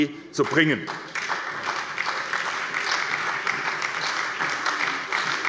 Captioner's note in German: Beifall bei der SPD